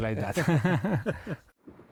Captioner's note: laughter